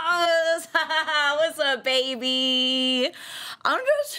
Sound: laughs

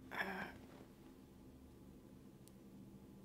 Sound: woman groans

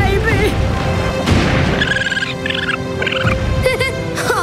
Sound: chirping

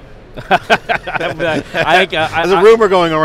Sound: laughs

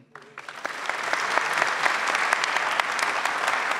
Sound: audience claps

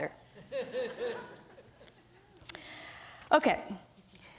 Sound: audience laughs

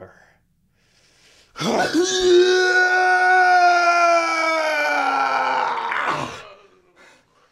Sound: screaming

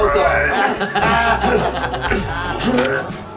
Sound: laughs

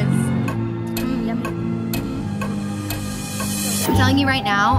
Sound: clock ticking

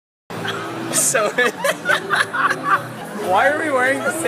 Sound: more laughs

